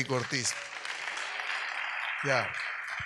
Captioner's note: audience applauds